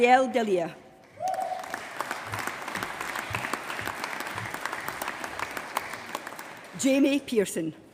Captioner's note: applause